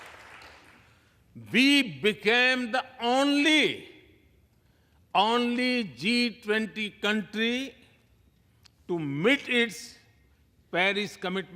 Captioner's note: applause